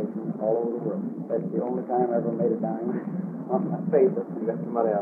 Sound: laughs

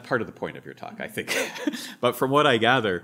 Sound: laughs

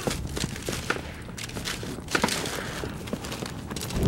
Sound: gunshots

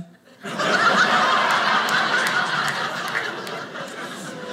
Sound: audience laughing

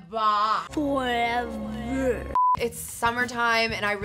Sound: voiceover

